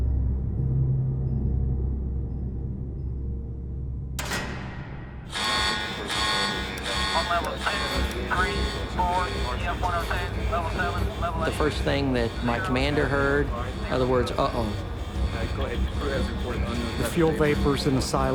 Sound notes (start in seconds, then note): 3.9 piece hits floor; 5.0 alarms beeping; 7.8 urgent voices on radio